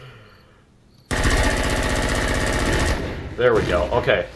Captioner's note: automatic gunfire; explosion